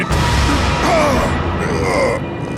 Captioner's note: groaning